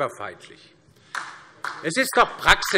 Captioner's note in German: Beifall DIE LINKE